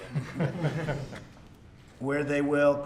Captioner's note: laughter